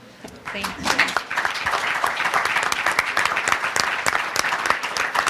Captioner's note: audience applause